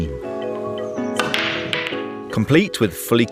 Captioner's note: cue ball shattering